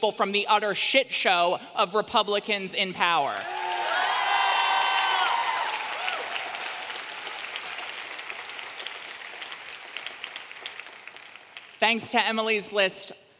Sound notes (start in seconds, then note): 3.4 audience clapping and cheering